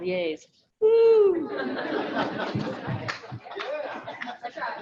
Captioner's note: audience laughing